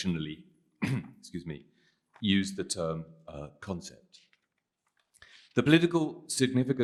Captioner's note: clears throat